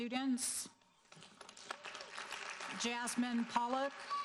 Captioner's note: audience applauding